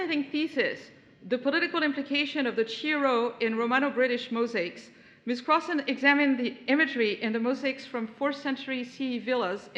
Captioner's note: none